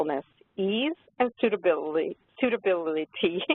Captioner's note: laughs